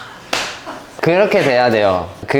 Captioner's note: knee slap